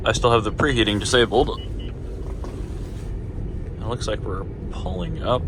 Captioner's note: Valentine one beeps with K band Radar once again